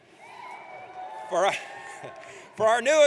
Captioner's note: audience cheers